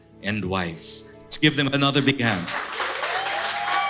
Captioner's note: applause